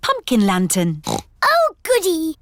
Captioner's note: snorts